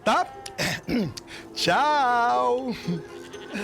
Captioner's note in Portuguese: Chico pigarreia